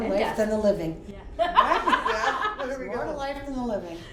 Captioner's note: laughs